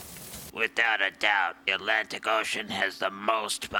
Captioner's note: voice distorted